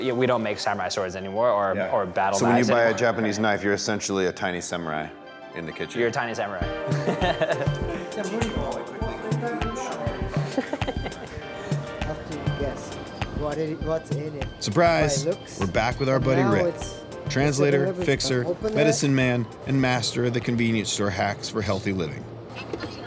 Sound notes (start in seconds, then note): 6.9 laughs; 9.1 uplifting music